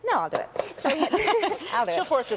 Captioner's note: laughing